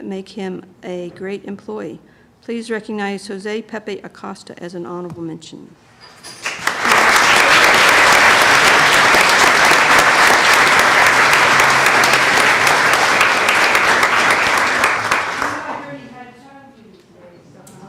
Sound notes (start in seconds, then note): 5.7 applause